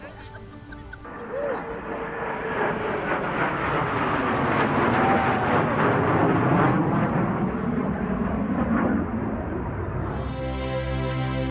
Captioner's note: jet sounds